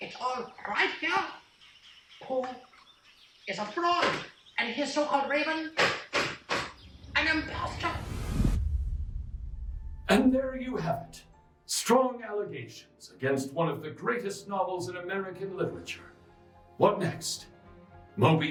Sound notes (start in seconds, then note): 5.9 banging table; 6.7 dramatic music